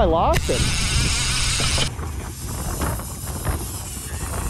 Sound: reel clicking

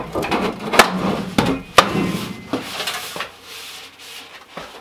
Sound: metal clanging

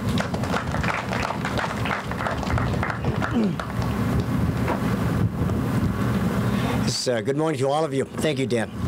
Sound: applause

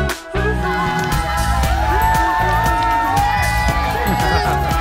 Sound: crowd cheering

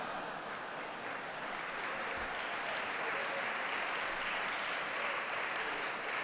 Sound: laughter; applause

